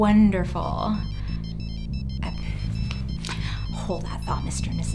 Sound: cell phone rings

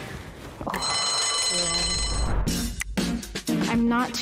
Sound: bell ringing

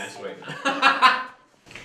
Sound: ha ha ha!

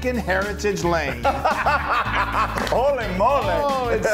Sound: laugh

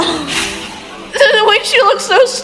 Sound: chshhh

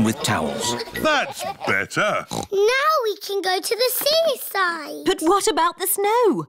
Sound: oinks

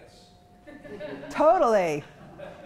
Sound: chuckling

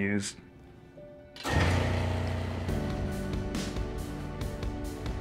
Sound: loud mechanical noise

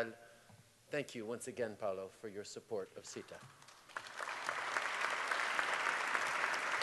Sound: applause

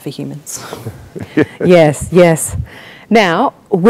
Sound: chuckles

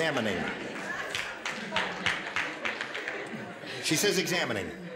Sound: scattered applause

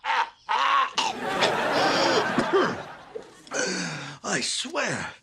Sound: evil laughter; choking, inhales sharply, clears throat; inhales sharply

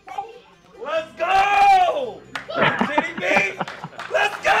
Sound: laughing

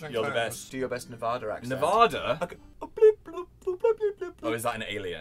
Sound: cute nerdy alien noises

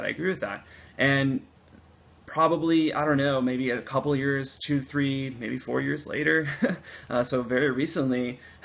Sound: laughter

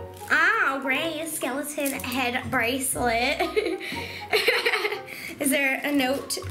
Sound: laughs

